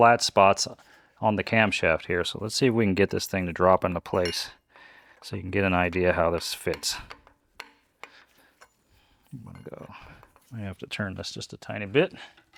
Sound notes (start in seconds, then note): 7.2 metal clanking